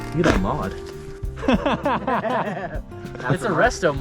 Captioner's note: audible laughter